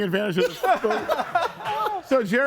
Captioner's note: person laughs